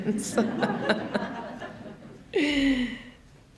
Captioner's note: laughter